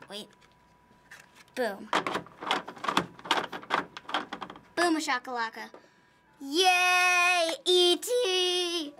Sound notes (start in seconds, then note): 2.0 cartridge rattles in console